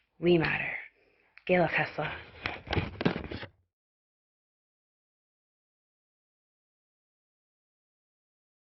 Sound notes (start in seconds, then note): 1.7 speaks in her language